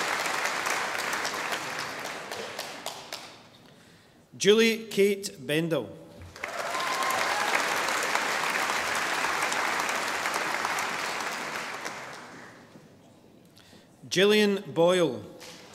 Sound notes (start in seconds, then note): 6.3 audience applauding